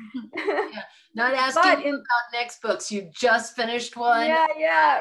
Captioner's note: laughter